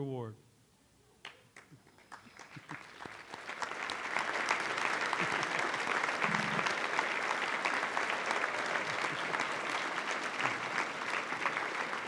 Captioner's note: applause